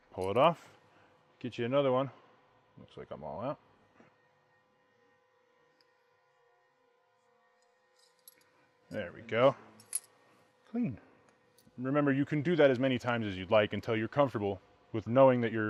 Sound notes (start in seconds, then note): 7.9 metal slides; 9.8 metal clicks